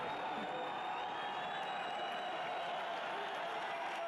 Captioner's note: cheering